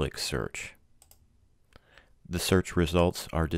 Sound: clicking

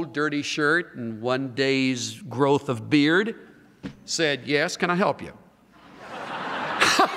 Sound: laughter

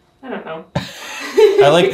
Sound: laughs

